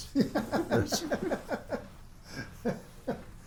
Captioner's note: laughs